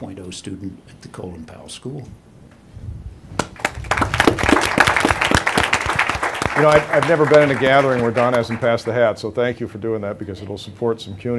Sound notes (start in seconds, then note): 3.4 applause